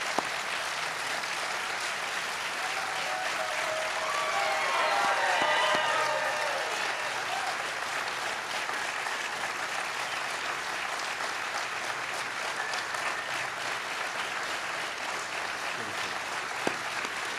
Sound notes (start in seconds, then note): 3.9 cheers and applause